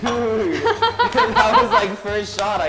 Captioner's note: laughing and clapping